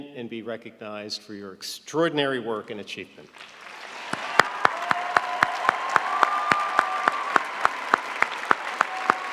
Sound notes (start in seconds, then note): 3.3 audience applauding